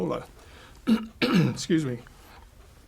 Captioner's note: clears throat